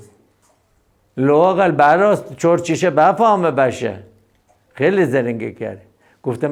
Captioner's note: speaks in Abyaneh dialect